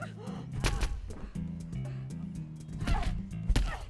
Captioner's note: thud; grunts; rapid thuds